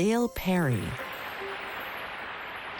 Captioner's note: studio audience applauds